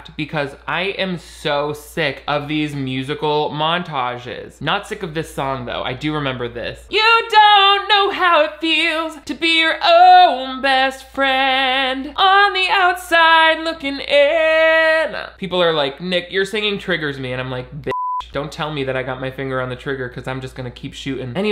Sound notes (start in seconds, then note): 17.8 beeping